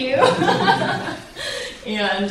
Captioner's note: laughs loudly